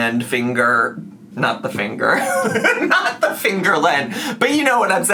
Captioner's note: laughs